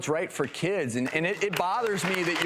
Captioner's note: audience clapping